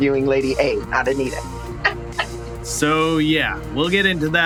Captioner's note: laughter